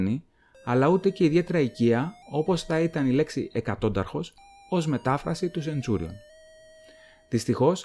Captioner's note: in Greek